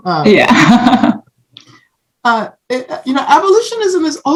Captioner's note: laughs